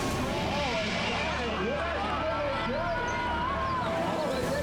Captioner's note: people chattering